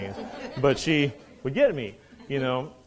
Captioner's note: students laughing